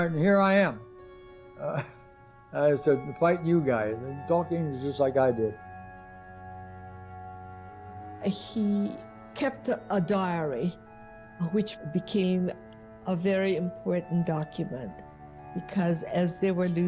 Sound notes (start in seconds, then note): 1.6 laughs